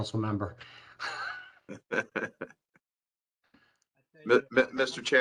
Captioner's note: laughter